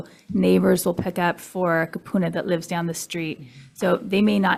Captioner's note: foreign language